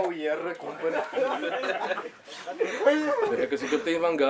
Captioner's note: laughing